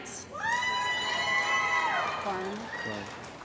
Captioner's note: cheering & Applause